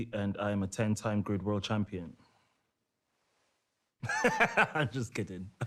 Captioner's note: laughs